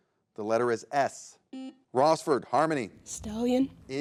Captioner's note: button blips